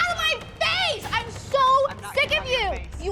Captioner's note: yelling